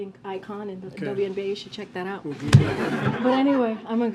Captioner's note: laughter